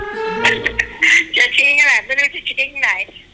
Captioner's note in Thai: หม่าม้าหัวเราะ